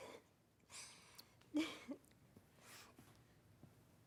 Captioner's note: laughs